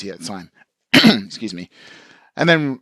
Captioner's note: clears throat